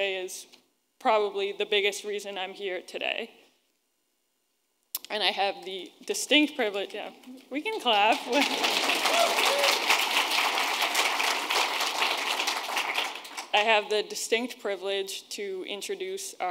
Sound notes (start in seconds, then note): 8.1 attendees applauding; 8.6 attendees cheering